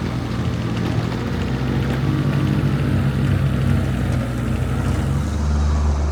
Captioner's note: vehicle rumbling continues